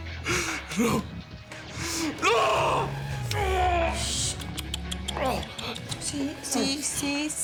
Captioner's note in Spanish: Sollozos